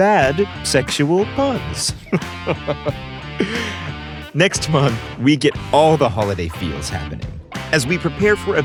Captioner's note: chuckle